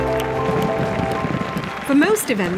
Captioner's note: fireworks popping